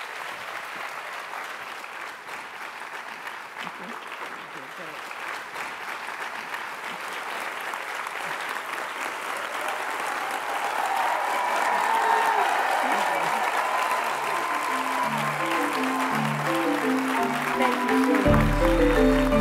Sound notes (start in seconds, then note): 0.6 applause; 3.7 cheers and applause